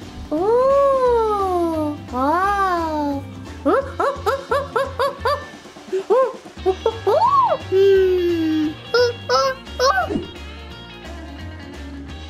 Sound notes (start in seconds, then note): 2.7 monkey's screeching; 6.7 uptempo rock music